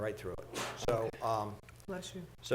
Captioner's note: board member sneezes